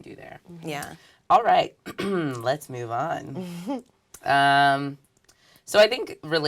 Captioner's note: cough